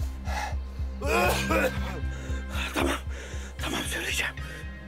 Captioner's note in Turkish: Öksürür